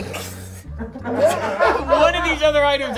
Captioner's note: snickering; crew laughing